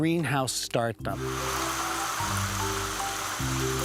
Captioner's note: water spraying